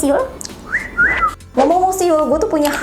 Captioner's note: whistling